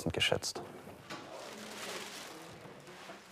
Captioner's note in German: Rascheln